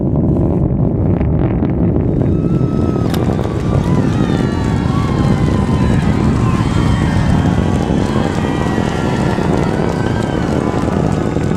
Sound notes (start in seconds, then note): 2.2 cheers